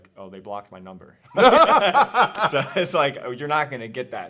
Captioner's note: both laughing